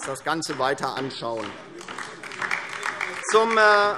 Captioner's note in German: Beifall DIE LINKE